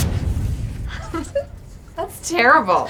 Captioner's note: laughing